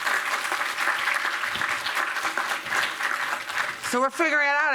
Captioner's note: applause